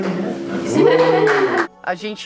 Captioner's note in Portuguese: palmas